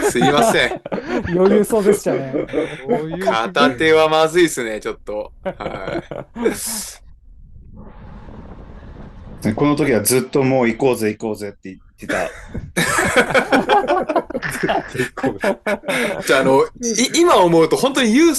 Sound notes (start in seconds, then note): 16.0 laughter